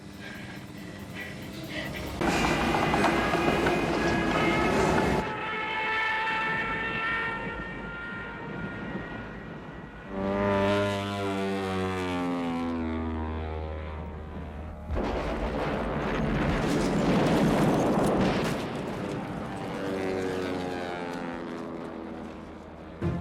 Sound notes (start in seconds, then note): 0.0 heavy breathing; 2.2 plane diving; 3.4 rattling; 4.6 plane diving; 10.1 plane swooping; 13.5 plane engine; 14.9 explosions; 19.4 plane engine